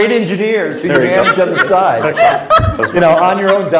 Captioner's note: laughs